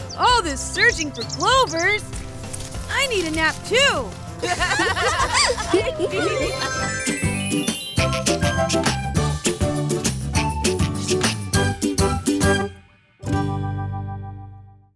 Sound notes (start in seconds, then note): 4.4 laughs; 6.3 transition tones